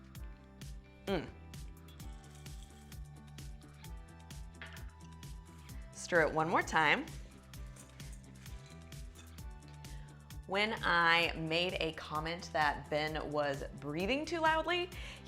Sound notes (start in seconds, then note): 1.0 grunting